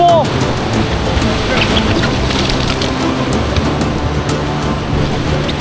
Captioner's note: water splashing